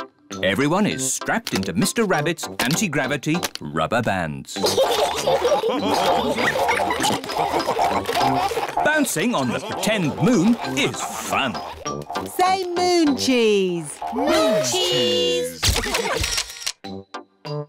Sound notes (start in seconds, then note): 4.6 all laugh